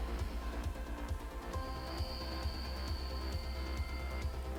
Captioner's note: inhaling and exhaling